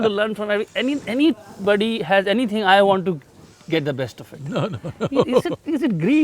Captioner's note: laughs